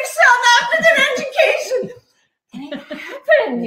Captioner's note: laughing